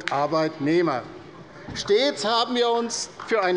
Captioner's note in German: Beifall bei der LINKEN